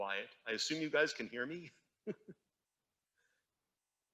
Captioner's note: chuckles